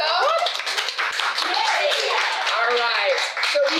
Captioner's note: clapping